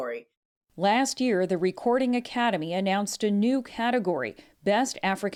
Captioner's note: voice-over